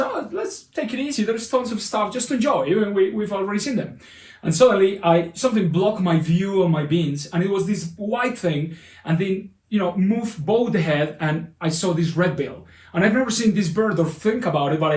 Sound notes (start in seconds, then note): none